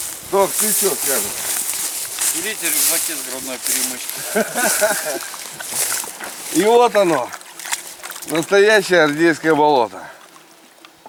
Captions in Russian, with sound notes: Тоха, ты чего скажешь? Берите рюкзаки с грудной перемычкой. (смех) И вот оно. Настоящее Рдейское болото.